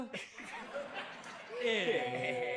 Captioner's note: chuckling